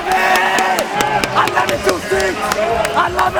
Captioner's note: cheering